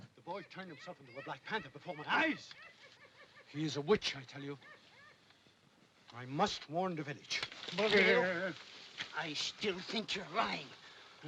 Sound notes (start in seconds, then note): 7.9 other man stammers